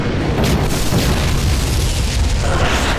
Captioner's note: explosion; gunfire